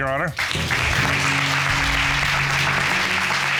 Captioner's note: audience applauding